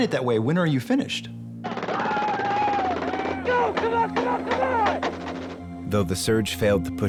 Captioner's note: gunfire